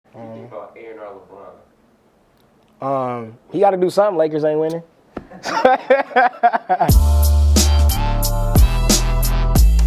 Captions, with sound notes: - He gotta do somethin', Lakers ain't winnin'. (laughs) (smooth hip-hop music)